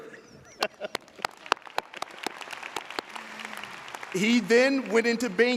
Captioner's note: audience applauding